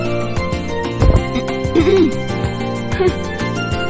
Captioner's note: clear throat